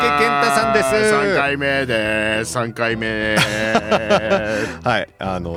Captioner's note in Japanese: 笑い